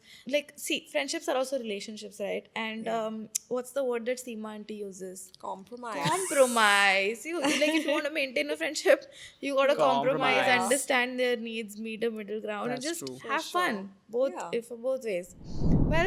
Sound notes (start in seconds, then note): 6.0 laughing